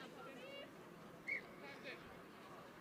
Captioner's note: whistle